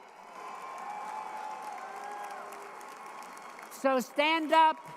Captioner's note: crowd cheering